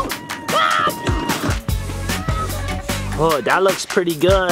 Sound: screams

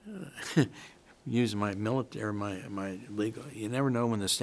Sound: chuckles

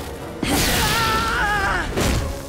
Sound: screams

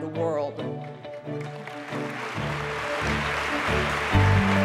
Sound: applause

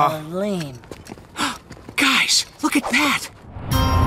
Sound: gasping

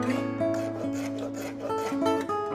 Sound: scraping

